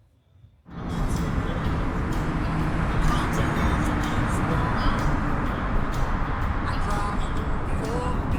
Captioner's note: airplane Engine Roaring